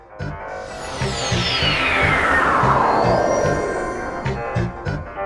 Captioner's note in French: bruit de téléportation